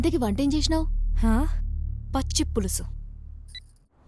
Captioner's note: sarcastically